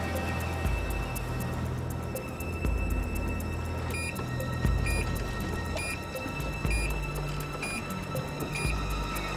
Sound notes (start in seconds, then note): 6.8 beeping continues